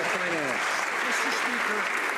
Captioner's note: some Applause